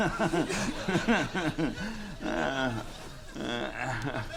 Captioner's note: laughs